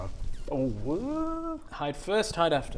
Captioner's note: phwwrrrrrrrr